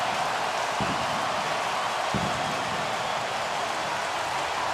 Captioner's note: crowd cheering